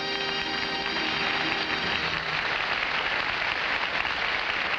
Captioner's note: audience applauding